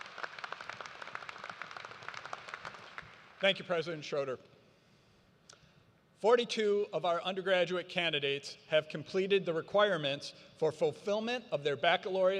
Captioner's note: applause